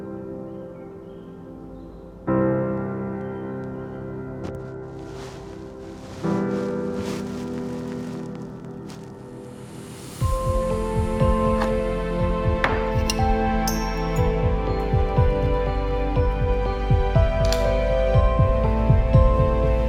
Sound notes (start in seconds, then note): 12.6 cup thudding; 15.0 dramatic music